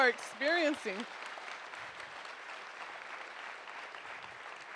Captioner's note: audience applauding